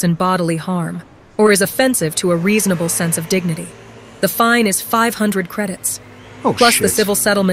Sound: AI Voice

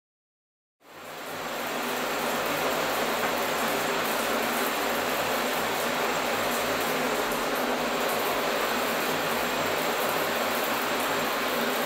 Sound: shower running

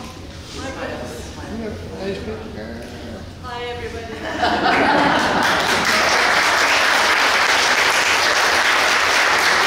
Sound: laughing and clapping

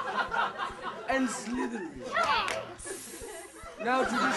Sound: hiss

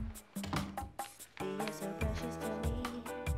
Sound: door closes

